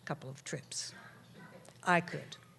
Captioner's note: audience chatter